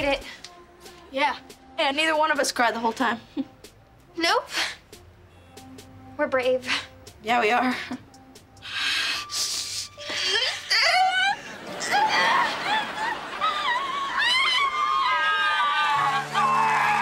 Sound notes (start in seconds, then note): 8.6 breathing heavily; 10.1 crying